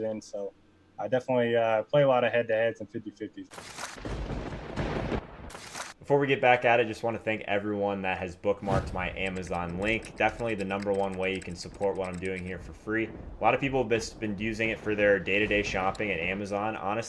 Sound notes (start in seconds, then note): 3.6 lightening; 4.0 thunder